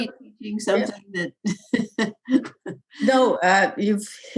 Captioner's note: laughs